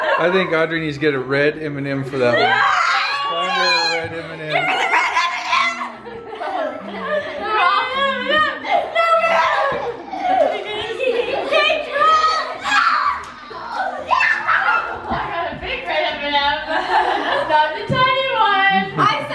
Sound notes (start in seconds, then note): 7.5 giggling and chatter